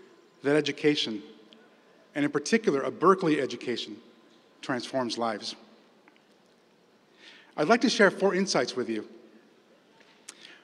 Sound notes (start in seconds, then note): none